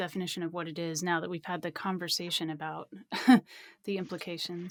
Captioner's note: laughs